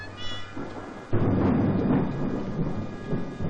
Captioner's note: thunderclap